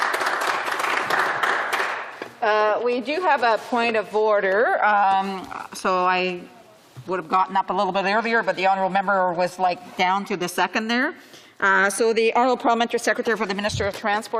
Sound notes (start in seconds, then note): 0.0 some Applause; 12.5 voix de l'interprète